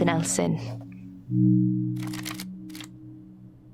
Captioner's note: paper crinkles